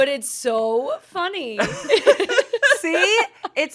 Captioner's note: everyone laughs